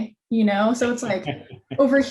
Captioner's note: laughs